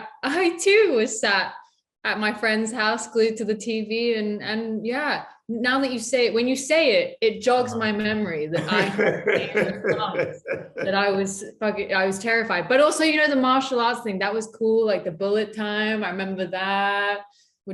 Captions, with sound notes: I too sat at my friend's house glued to the TV. And yeah, now that you say it, when you say it, it jogs my memory, (Yahya laughing) that I was terrified. But also you know the martial arts thing, that was cool. Like the bullet time, I remember that,